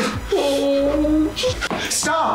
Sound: Derek whimpers

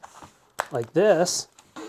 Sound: snapping sound

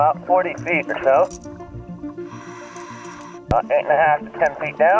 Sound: exhaling air

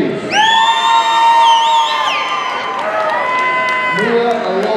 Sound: audience cheering

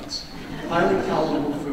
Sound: audience laughs

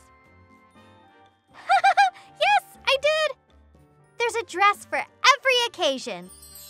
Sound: giggles

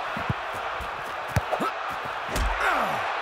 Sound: crowd cheering; grunting

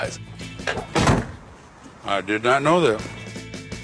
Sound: car door shuts

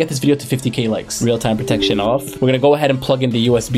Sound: computer chimes

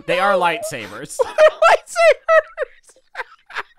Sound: laughs

